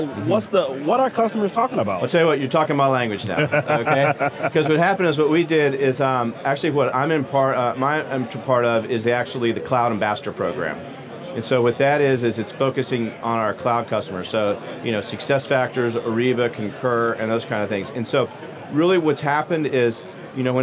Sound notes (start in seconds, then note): 3.2 laughing